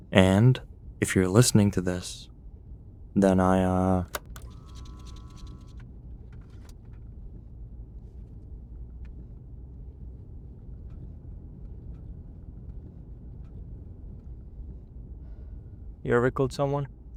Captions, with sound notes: And if you're listening to this, then I uh... [cassette ejects] [soft driving noise background] [soft rattle] - You ever killed someone?